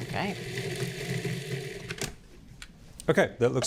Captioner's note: processor whirring